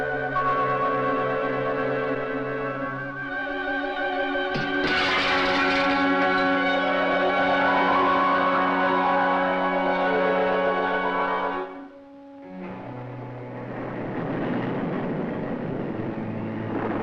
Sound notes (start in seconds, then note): 0.2 intense music; 4.6 glass clattering; 13.1 thunder rumbling